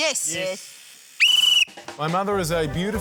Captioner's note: blows whistle